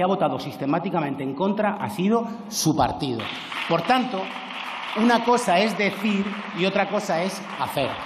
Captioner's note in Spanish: Aplausos